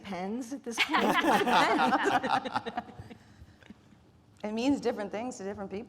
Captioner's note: speakers laughing